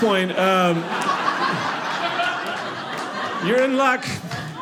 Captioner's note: audience laughing